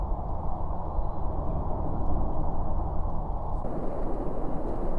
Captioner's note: airplane noises; muted airplane noises